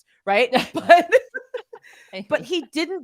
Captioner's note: chuckling